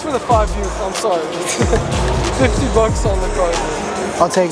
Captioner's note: laughing